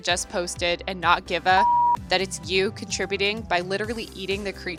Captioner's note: beep